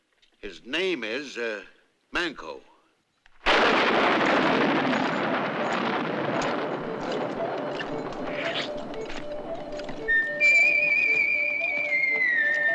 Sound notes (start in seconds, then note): 3.4 thunderclap